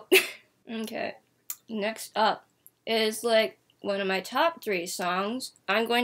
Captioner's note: muffle due to eating a cookie